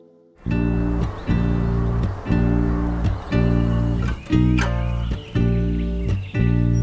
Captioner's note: birds chirping; soft soothing music